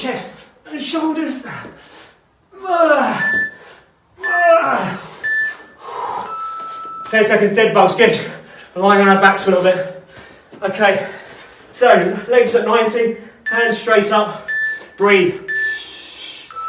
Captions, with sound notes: and your shoulders. (beeping) 10 seconds dead bugs good, we're lying on our backs for a little bit. Okay. So, legs at 90, hands straight up, breathe and extend.